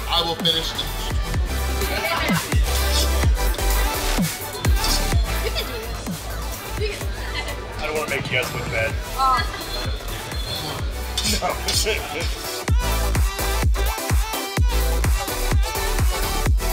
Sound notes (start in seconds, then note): 1.3 upbeat electronic music; 12.2 laughing; 13.1 upbeat electronic music